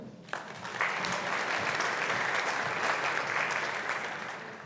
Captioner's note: audience applauding